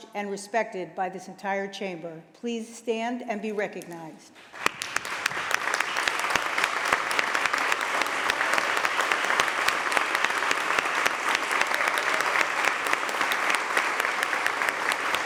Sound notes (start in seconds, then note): 4.4 applause